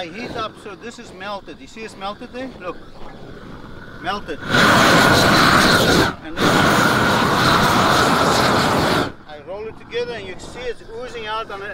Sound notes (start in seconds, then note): 4.5 air whooshes against plastic